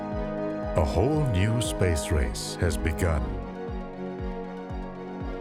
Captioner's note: voiceover